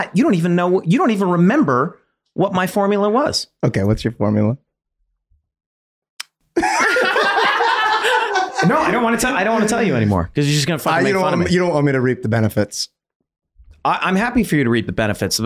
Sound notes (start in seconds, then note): 6.2 Glenn clicks tongue; 6.6 everyone laughing